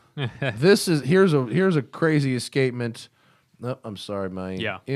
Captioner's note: laughter